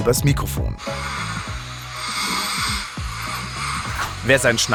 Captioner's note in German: Schnarchen